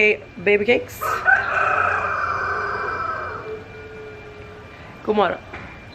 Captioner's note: the rooster crows again